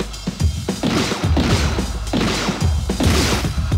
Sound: gunshots

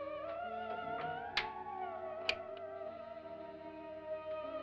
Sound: eerie music; door closes & locks; eerie music

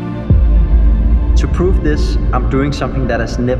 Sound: voice echoes

